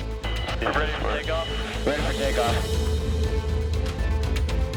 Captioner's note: radio feedback scratching